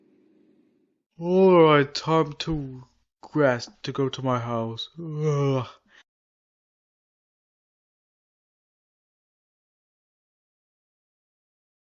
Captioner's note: yawns